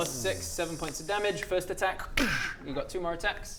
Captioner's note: dssschck